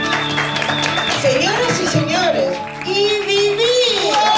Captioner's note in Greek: ισπανικα